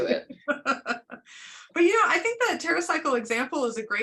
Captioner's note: laughter